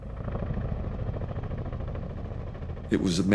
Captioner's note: helicopter rumbling